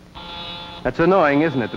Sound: phone buzzes

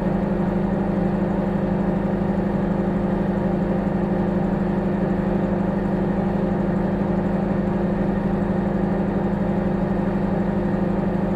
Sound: microwave humming

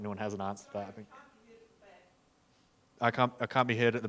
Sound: faintly speaking

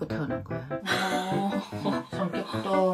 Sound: laugh

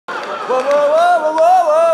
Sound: audience laughing

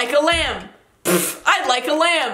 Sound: puffs

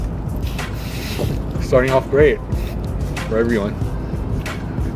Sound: laughs

